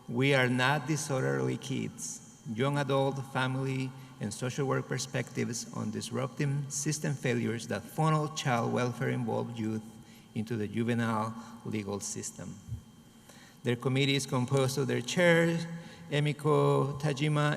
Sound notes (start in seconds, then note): none